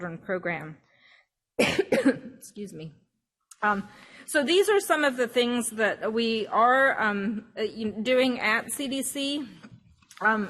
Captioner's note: coughs